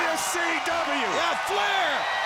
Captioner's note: audience cheers